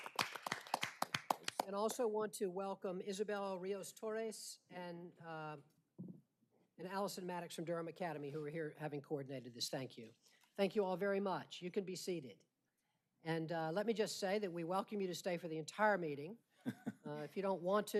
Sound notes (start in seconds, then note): 1.5 applause